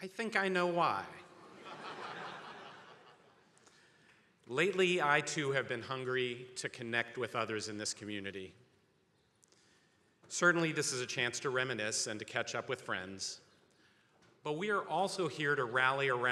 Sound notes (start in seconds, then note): 1.3 attendees laughing